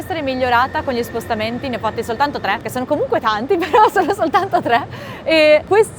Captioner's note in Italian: risate